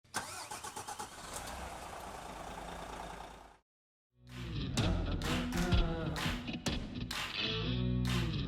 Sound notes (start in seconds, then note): 0.0 engine starting; 4.2 upbeat music